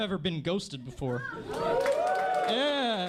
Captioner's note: sad cheers